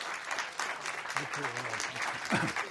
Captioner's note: clears throat